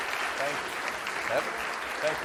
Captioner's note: audience applauds